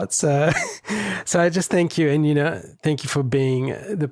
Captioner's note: laughs